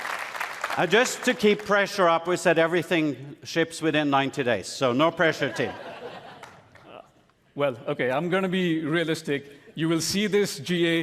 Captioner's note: applause; cheering and applause